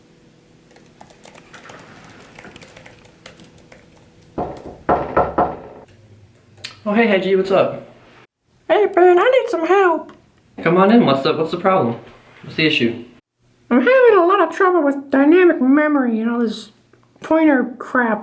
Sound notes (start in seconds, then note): 4.4 knock